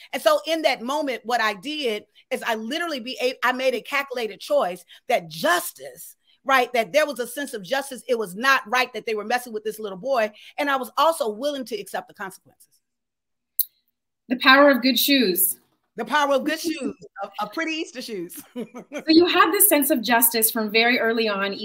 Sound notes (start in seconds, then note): 18.2 laughing; 18.3 laughs